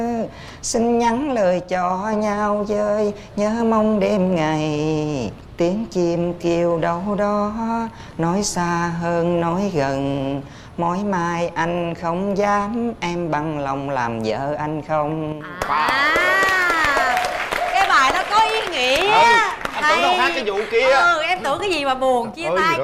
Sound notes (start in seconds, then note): 15.5 applause